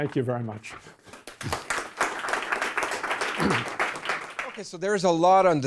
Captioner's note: audience applauds